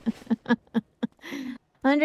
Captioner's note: laughter